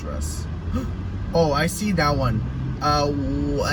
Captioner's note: gasps